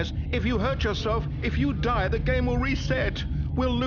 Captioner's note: none